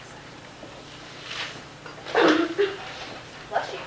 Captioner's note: sneezing